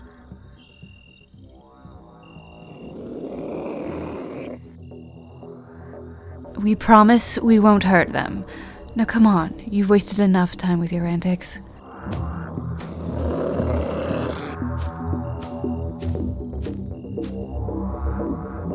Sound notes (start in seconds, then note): 2.8 Vivian angrily growls; 12.9 Vivian growls